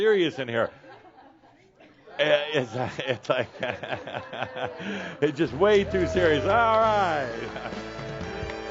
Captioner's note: laughs